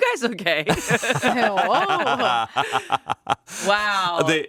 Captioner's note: all laughing